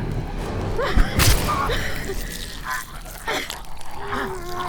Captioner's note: fist thudding; flesh squishing; zombie caveman groaning